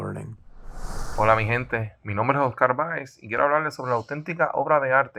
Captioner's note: speaks foreign language